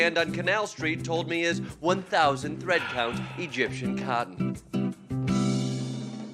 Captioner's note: sighs